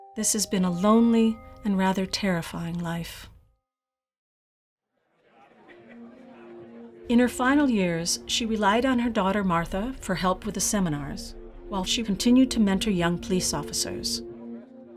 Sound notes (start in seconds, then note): 5.1 people chattering